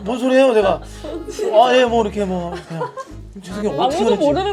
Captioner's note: murmuring